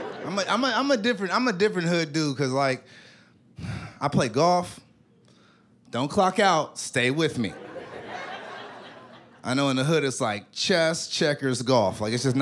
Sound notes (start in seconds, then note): 3.6 sighs